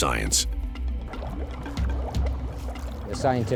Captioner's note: water bubbling